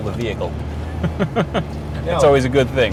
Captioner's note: laughter